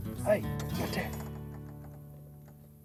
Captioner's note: whisper From Boat